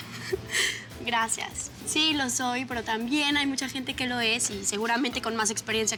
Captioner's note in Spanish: Risas